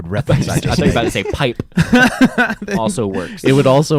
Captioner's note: laughing